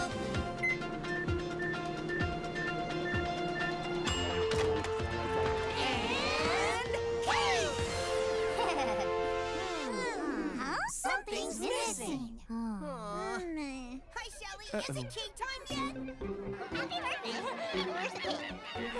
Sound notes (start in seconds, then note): 0.5 beeping; 4.0 dinging; 8.5 laughing